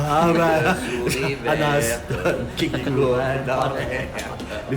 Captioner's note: laughs